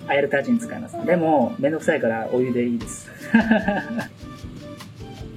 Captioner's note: laughs